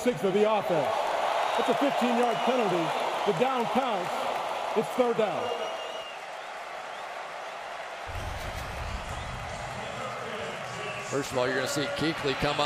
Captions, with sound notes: number 66 of the offense. It's a 15-yard penalty. The down counts. It's third down. [cheering] First of all, you're going to see